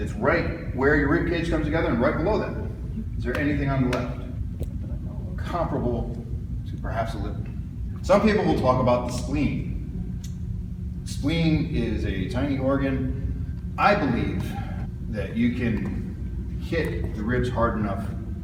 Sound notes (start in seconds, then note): 4.1 smacking